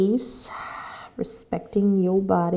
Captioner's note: exhaling